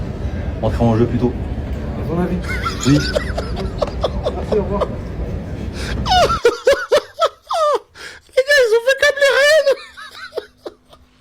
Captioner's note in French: rires